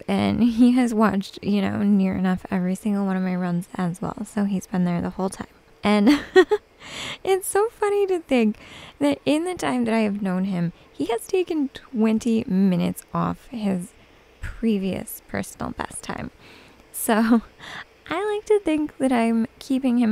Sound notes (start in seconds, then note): 6.0 giggles